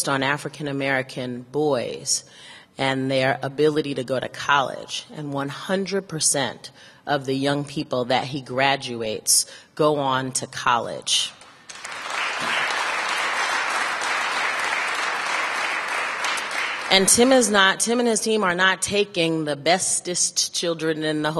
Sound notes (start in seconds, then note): 13.7 applause